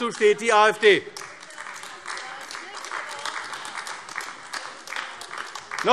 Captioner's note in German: Beifall AfD